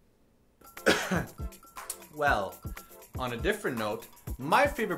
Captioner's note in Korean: 기침